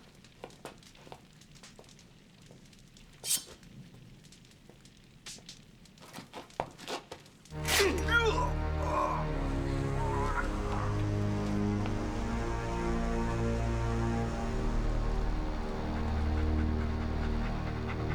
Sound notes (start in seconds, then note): 3.2 knife unsheathed; 7.6 snick; 9.6 somber orchestral music; 16.4 dog panting